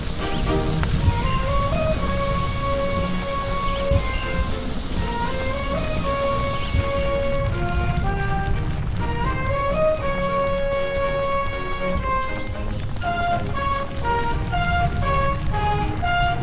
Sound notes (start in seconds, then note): 2.7 intense music continues; 7.8 volcano rumbling